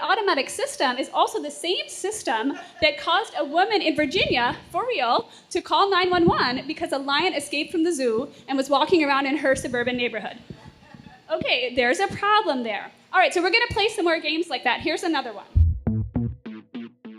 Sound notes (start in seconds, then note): 10.5 laughter